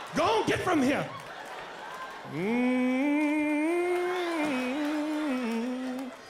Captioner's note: humming